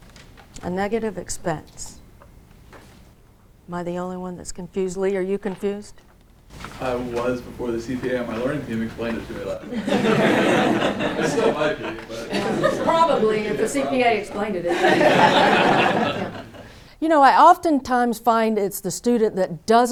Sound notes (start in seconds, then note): 9.6 laughter